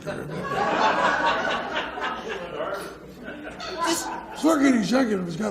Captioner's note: audience laughs